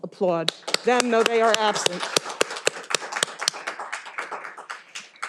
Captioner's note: all applauding